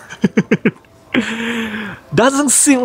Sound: laughs

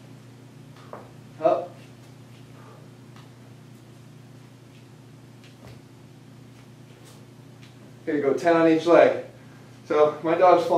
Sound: pause

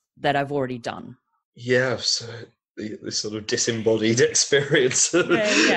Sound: laughs

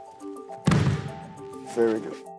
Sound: thump

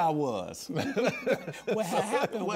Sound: laughs

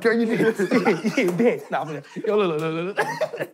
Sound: laughing

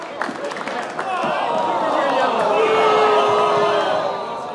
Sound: crowd jeering

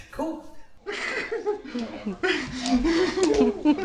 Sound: giggling

